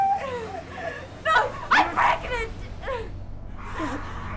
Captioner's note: sobs; Sue whimpering